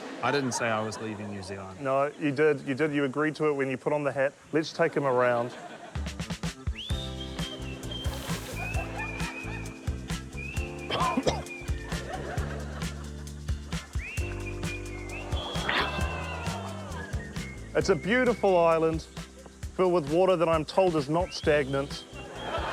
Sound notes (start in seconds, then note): 10.8 coughs; 15.0 audience exclaims